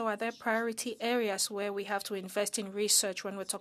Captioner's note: speaking French